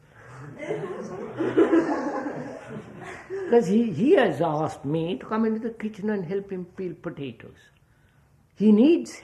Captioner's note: laughter